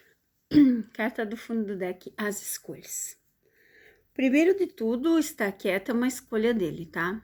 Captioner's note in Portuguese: limpando a garganta